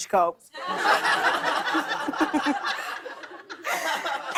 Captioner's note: laughter